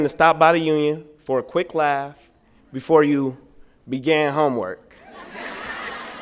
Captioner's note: laughter